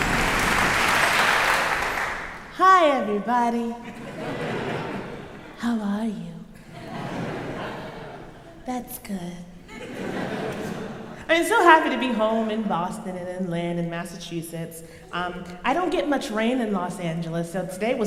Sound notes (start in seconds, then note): 0.0 crowd clapping; 3.5 crowd laughing; 6.5 crowd laughs